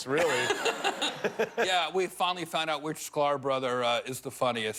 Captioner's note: laughter